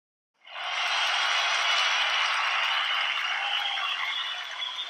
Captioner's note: crowd cheering